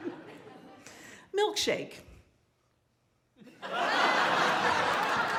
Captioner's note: laughter